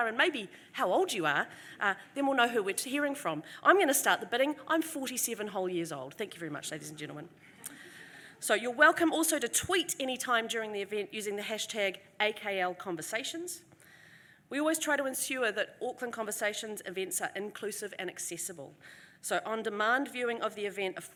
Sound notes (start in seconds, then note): 7.5 audience laughter